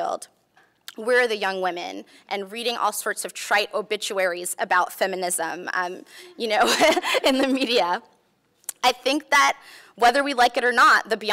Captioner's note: laughs